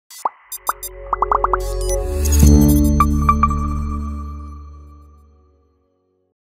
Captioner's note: upbeat techno music; bubbles popping